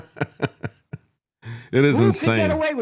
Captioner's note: laughing